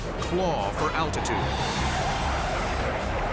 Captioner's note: jet engine noises